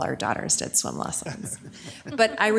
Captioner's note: people laughing